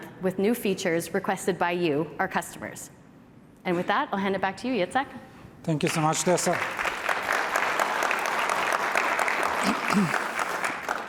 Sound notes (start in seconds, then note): 5.9 applause